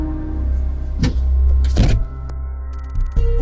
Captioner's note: trunk thuds closed; somber music